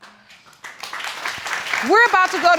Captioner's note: applause